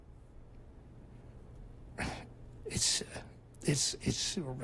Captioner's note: sighs